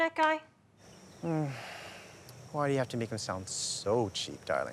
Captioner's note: sighs